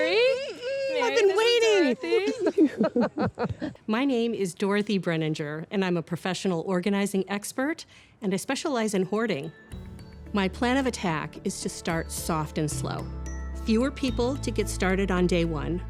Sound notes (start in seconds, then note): 2.7 laughing